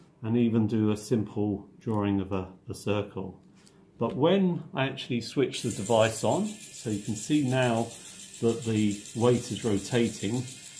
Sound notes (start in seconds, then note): 5.6 buzzing sound